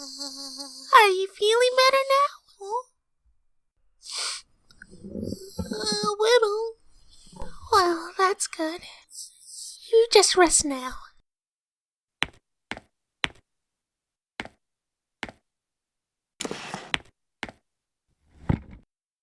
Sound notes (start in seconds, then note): 4.0 sniff